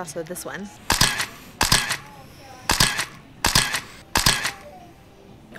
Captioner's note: camera shuttering